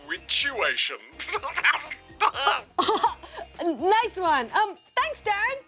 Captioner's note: laughs